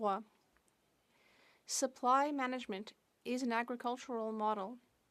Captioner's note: speaking French